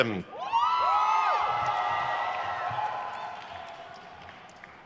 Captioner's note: crowd cheers